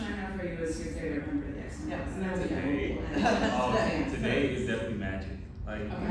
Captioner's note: laughter